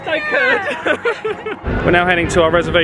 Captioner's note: laughing